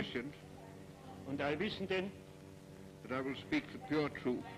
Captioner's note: Julius speaking foreign language